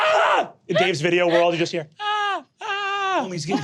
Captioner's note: screaming faintly